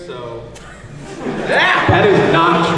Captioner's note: audience laughs